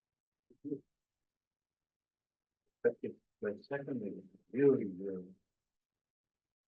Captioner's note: presenter speaking faintly off mic